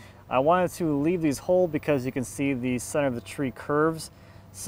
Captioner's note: none